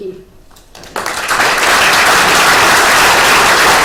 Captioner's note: crowd applause